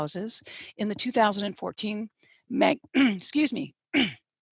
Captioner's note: clears throat